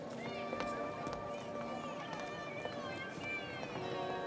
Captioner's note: heels clack